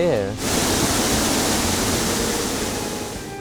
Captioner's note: water fall